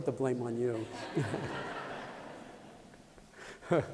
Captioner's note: laughter